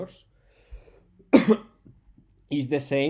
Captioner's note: coughs